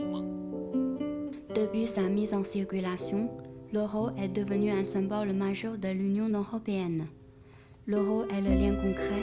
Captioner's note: French